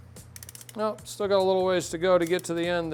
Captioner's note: clicking